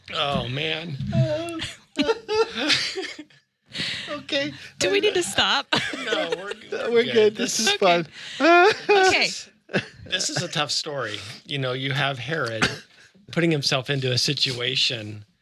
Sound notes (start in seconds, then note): 0.2 laughing; 9.3 laughs